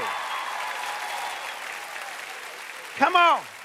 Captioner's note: cheers and applause